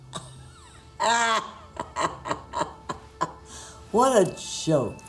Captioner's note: laughing